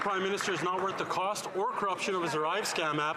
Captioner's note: some Applause